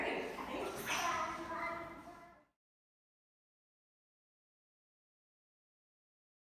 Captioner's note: children babbling